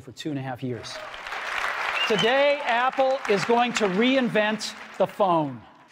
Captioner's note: applause